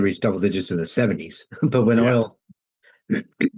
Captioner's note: laughs; clears throat